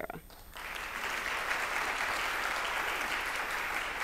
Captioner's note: applause